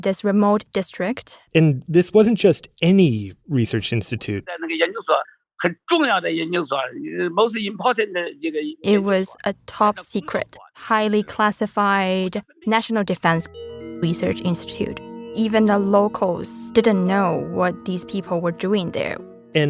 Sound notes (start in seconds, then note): 7.0 speaking Mandarin